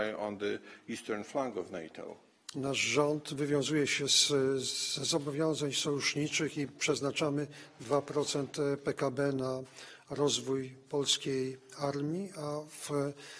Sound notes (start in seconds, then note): 8.8 speaking polish